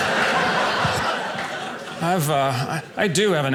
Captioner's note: audience laughing